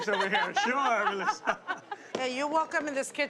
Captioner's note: laughs